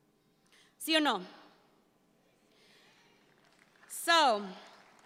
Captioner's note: speaks in Spanish